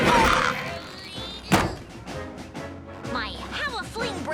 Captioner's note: Milo grunts; intense orchestral music